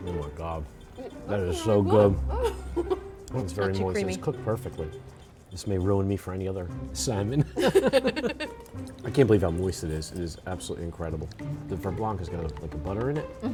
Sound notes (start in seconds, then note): 1.5 laughing; 7.4 both laughing